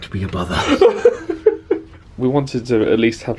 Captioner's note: laughing